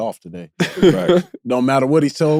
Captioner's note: laughs